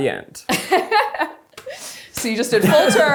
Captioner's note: laughs